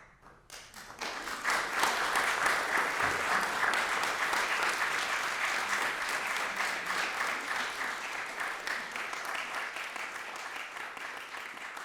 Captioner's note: applause